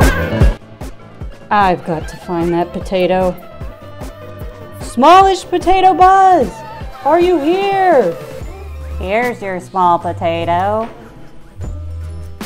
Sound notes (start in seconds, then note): 0.0 music gets louder; 4.2 shouting